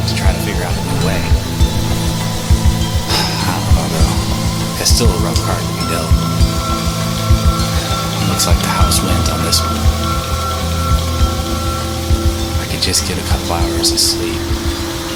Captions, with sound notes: how to figure out a new way. (sighs) I don't know. It's still a rough card to be dealt. It's like how it swings on this one. I could just get a couple of hours of sleep.